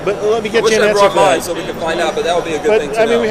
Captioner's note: voiceover